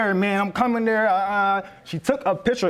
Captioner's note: stutters